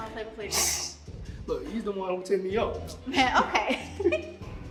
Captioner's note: hisses; both giggle